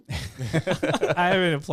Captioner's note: laughing